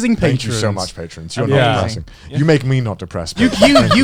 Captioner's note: chuckling